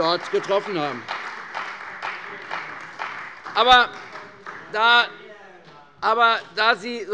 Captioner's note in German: Beifall bei der CDU